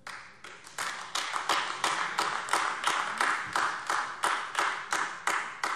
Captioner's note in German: Beifall AfD